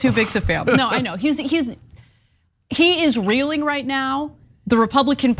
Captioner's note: laugh